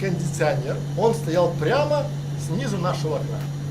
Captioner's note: noise of air conditioners